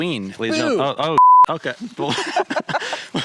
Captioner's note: beep